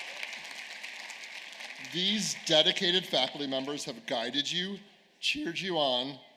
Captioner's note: applause